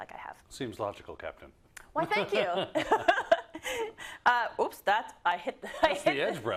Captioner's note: laugh